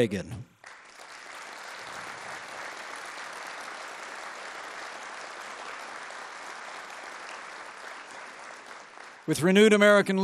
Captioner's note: applause